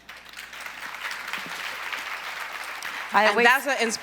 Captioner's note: applause